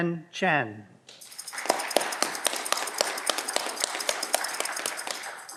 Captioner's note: audience clapping